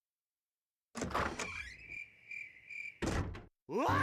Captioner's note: crickets chirping; screaming